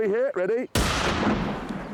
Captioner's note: shotgun blast